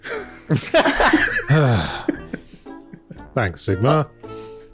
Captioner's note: sigh